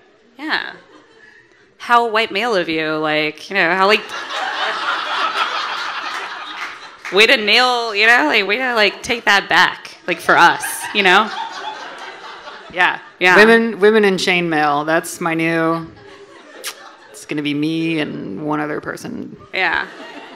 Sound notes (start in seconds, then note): 4.1 audience laughing and applauding; 10.1 audience laughing; 15.9 audience laughing